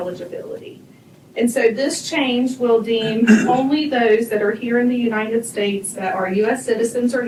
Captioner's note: clears throat